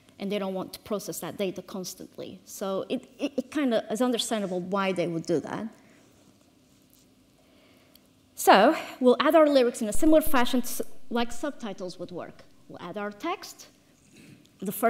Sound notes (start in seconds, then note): none